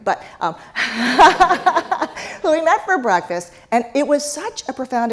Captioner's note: laugh